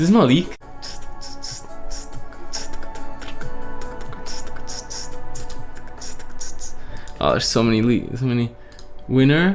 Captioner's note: beatboxing